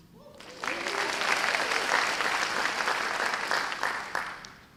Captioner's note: audience applause